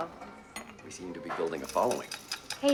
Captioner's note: coins jingling